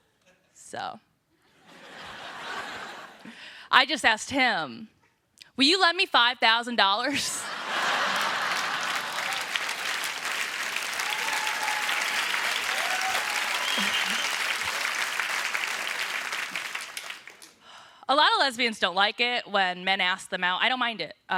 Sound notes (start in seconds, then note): 1.4 laughter; 10.9 applause